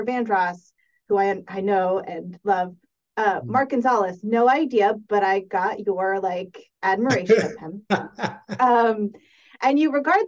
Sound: laughs

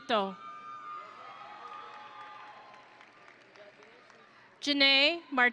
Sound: audience and graduates cheering

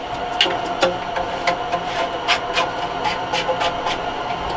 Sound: pipe thumping

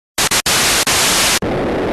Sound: static; rumble

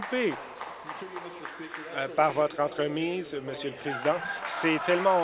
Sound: applause

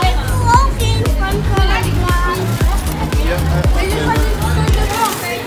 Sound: speaking in dutch

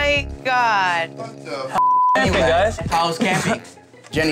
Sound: beep

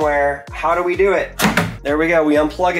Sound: plug clattering

